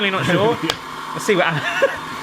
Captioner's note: claps